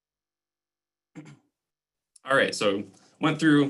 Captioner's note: clearing throat